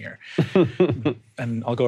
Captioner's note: chuckling